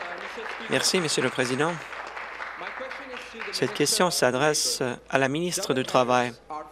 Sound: applause

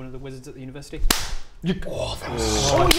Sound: clap!

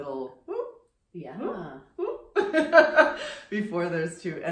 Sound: laughs

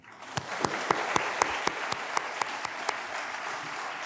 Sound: all applauding

